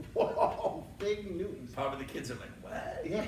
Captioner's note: laughs